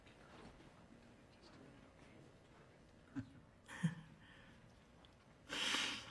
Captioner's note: people chattering faintly